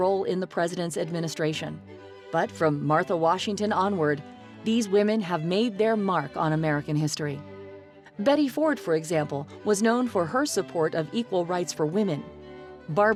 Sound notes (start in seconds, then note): none